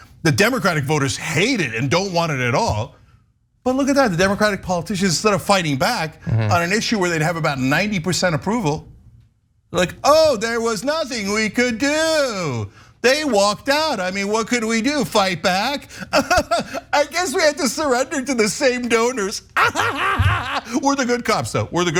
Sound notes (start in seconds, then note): 15.9 laugh